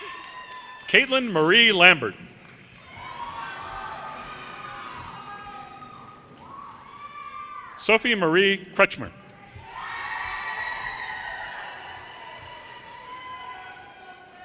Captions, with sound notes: Caitlin Marie Lambert, (audience cheers and applause) Sophie Marie Kretschmer, (audience cheers and applause)